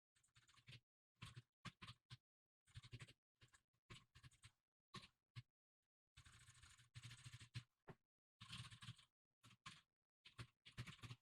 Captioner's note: typing sounds